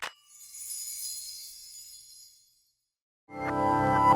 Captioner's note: windchimes tinkling